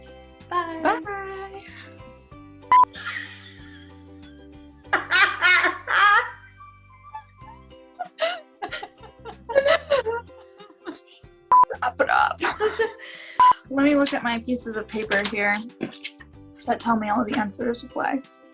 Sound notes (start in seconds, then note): 2.7 uncontrollable laughter